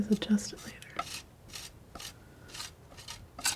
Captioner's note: sculpture sounds